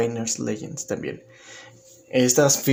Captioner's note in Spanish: Silencio